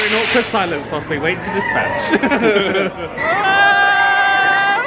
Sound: chuckles

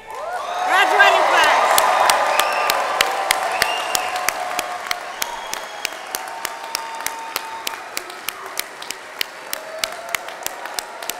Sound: applause

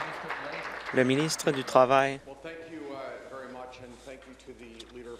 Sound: applause

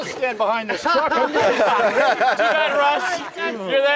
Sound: laughing

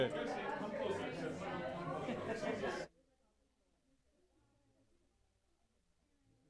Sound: people chattering

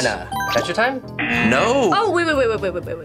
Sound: bell dingles; buzzer buzzes

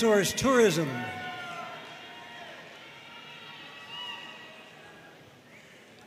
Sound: audience cheering and applauding

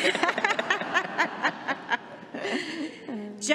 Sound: laughter

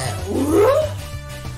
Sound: intrigued furry noises

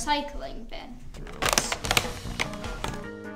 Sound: popping

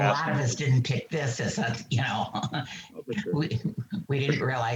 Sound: chuckles

